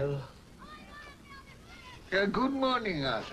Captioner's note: children yell happily in distance